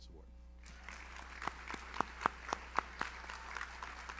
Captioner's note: audience applauds